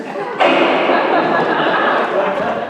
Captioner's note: gavel slams; laughter